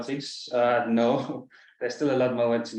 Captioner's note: chuckles